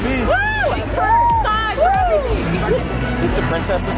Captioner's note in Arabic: هتافات